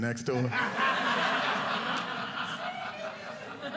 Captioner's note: audience laughing